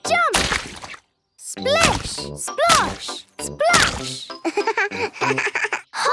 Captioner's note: laugh